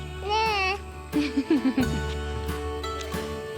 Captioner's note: chuckles